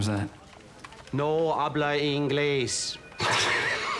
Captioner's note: man speaking in foreign language; both laughing